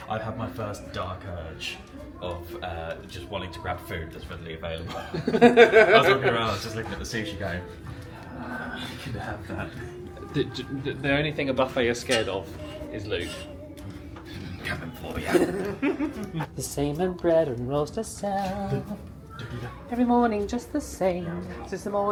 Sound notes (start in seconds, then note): 4.9 laughs; 8.2 growls; 15.2 laughs